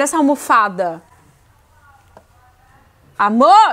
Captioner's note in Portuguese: silêncio